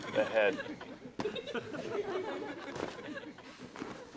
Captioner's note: audience laughs